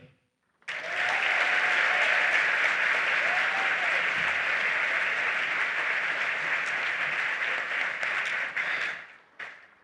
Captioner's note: applause